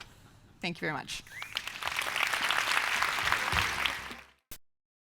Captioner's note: applause